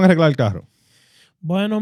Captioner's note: speaking In Foreign Language